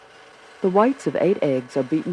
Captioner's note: voiceover